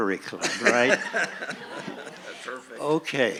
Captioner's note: laughing